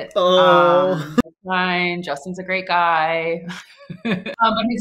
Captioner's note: laughs